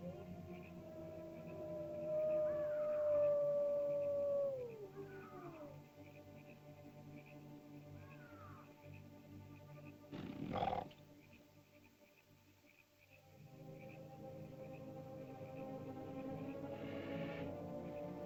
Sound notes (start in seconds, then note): 0.0 ominous music; 0.4 animal howls & bird caws; 6.3 bird caws; 6.3 ominous music; 10.1 animal growls; 13.3 ominous music